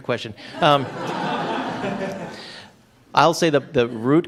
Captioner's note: laughter